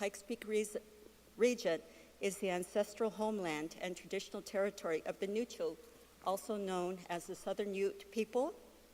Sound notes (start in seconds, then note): 3.8 speaking non-English